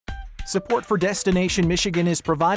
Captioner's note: voiceover